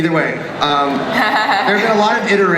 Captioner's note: voiceover; laughter